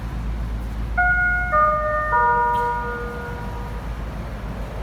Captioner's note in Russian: сигнал о прибытии поезда